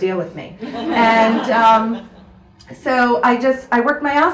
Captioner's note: audience laughs